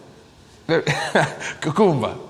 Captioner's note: laughs